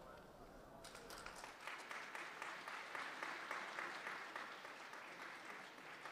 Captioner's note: audience applause